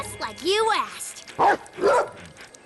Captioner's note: bark